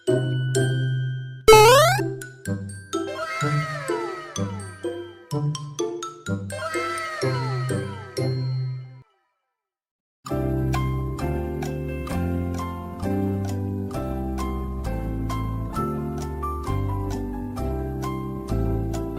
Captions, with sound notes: **Super Mario jump sound effect** wow~~! iphone pro max 13~~